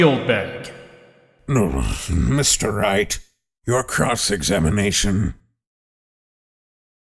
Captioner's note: groan